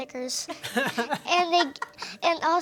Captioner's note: laugh